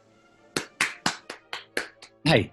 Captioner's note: applauds